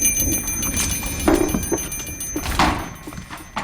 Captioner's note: door bell rings